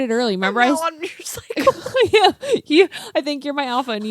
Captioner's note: laughs